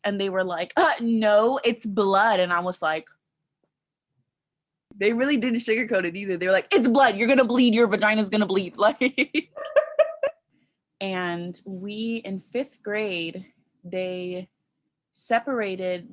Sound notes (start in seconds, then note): 9.4 laughing